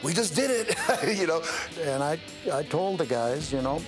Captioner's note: laugh